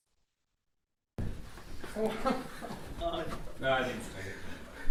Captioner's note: laughter